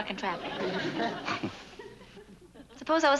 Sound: chuckles

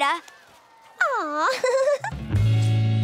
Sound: giggling

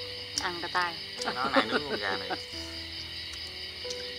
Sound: giggling

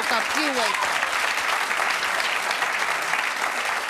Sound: clapping

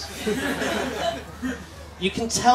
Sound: laughter

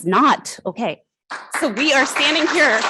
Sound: applause

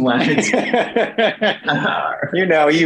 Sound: laughing

